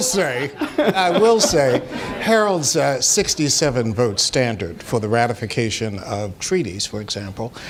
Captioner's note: laughter